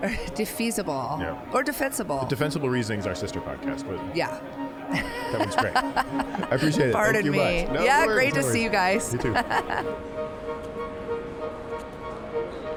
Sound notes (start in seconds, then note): 4.9 laughing; 8.6 chill ambient synth music